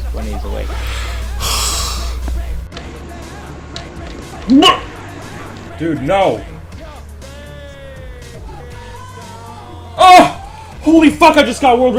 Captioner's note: yawns